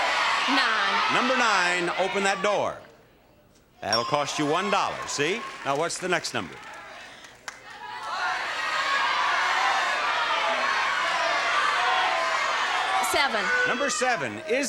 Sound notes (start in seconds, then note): 0.0 audience shouting; 7.6 audience shouting